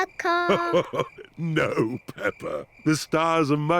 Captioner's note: chuckles